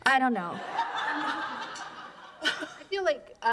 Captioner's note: laughter